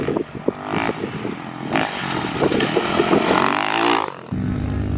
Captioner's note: engine humming